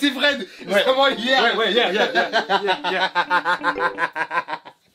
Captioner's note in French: rires